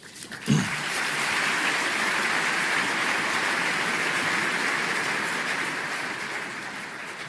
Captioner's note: applause